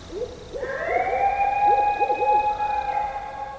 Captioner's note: animals howling